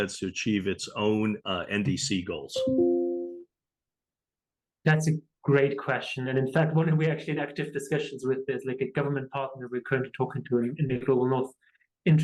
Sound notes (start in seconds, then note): 2.6 notification chiming